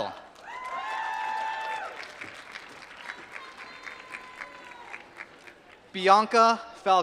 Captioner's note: applause